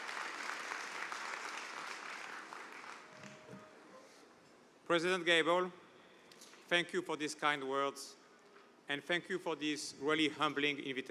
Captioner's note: cheers and applause